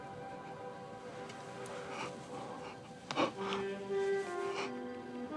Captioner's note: breathes heavily